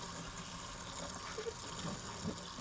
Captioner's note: running water sound